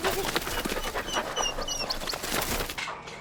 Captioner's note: dog panting